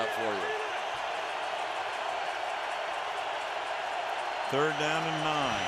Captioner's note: crowd cheering